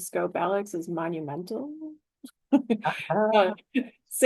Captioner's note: laughter